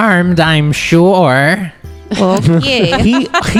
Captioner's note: laugh